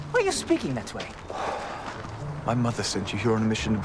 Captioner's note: Nicolas sighs